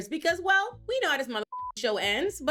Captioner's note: beep